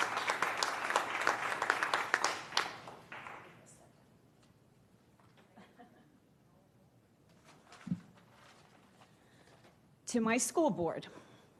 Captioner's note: applause